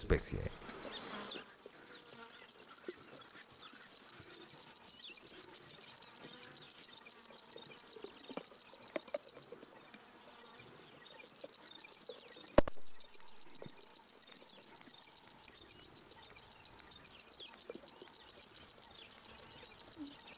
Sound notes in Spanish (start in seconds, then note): 2.0 sonidos selváticos